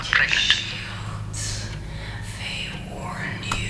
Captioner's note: voices continue